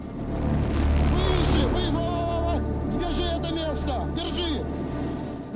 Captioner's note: men yelling in Russian